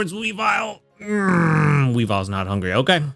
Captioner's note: groans